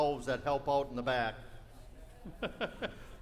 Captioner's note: laughing